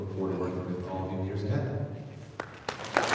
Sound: audience applauding

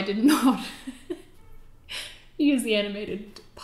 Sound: laughter

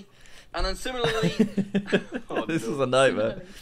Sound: laughs

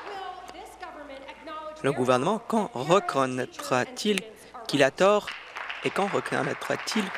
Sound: applause

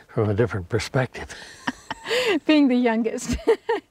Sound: both laughing

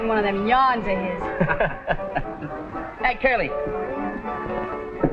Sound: chuckles

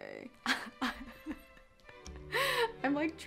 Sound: laughs

